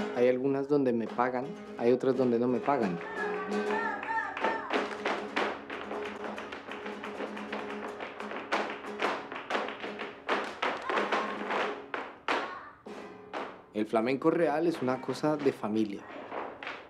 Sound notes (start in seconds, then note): 3.3 clapping; 6.5 feet tapping